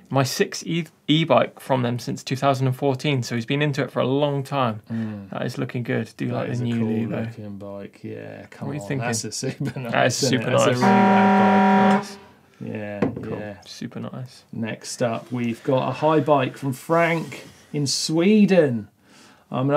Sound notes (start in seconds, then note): 10.3 horn blares